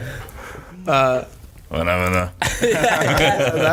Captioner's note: all laughing